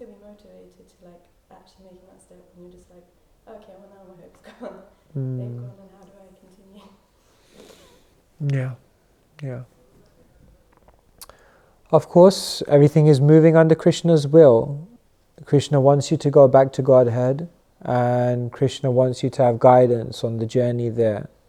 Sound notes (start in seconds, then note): 4.4 laughter